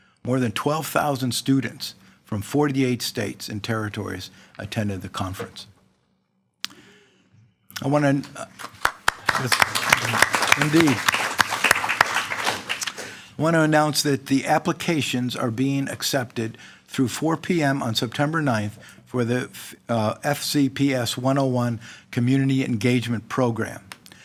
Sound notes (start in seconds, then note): 8.2 all applauding